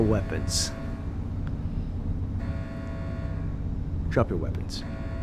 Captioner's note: alarm blaring